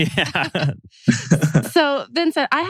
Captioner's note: laughs